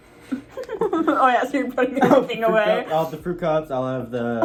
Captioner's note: laughs